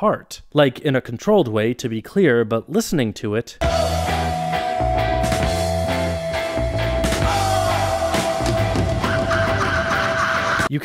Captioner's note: bang